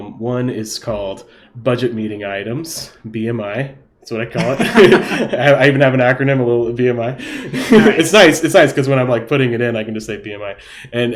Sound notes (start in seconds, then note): 4.4 laughing